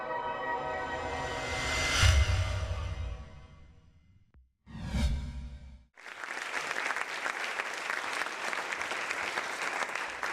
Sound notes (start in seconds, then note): 5.9 audience claps